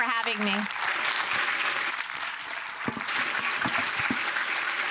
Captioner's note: audience applauding